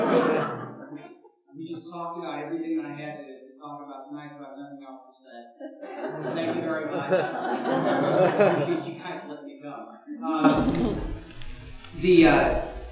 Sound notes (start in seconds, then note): 7.1 chuckles